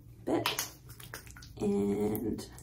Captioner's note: squishing sounds as I rub cream in my hands